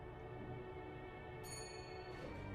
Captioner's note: dings